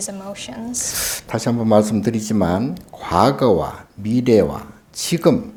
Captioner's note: speaking Korean